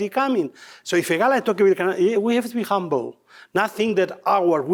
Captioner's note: faintly speaking